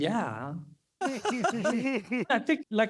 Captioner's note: laughter